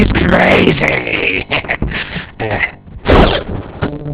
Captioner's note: chuckles